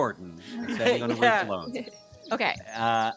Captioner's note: laughs